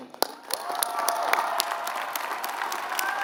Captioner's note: applause